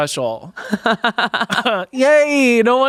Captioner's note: everyone laughs